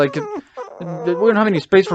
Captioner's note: whining